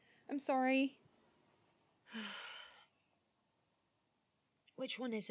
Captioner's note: nyx sighs